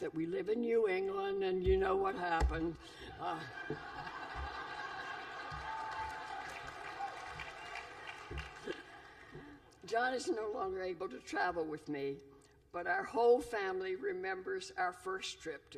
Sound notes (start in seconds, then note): 3.4 laughter